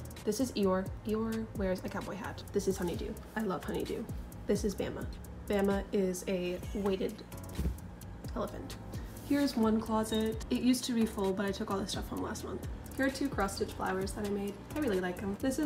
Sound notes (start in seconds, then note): 7.5 thud